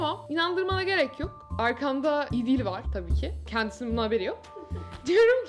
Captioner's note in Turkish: kıkırdar